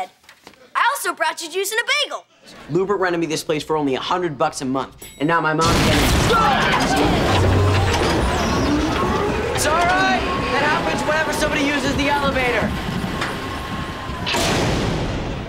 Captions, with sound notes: I also brought you juice and a bagel. Lewbert rented me this place for only a hundred bucks a month, and now my mom-- [loud crashing sound] It's all right. That happens whenever somebody uses the elevator.